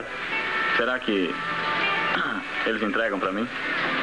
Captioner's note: clears Throat